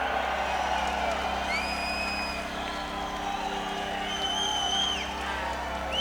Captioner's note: audience cheering; triumphant music